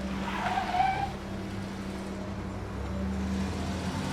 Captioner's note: tires screech